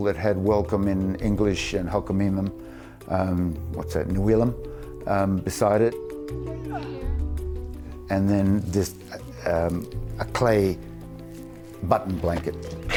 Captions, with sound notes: that had welcome in English and Halq'emeylem, what's that, (speaking foreign language) beside it. And then then just a clay button blanket.